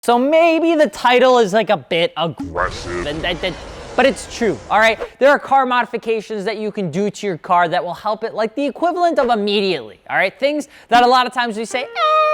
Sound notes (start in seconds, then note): 2.2 deep Strong Voice